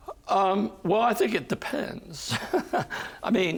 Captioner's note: chuckling